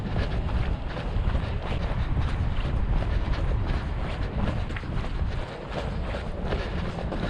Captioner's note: footsteps thudding; panting